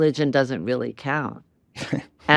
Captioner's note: chuckles